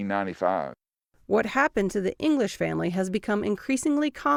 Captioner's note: voice-over